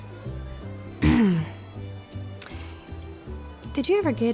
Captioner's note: clears throat